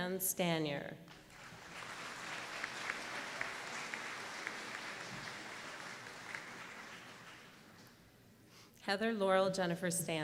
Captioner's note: applause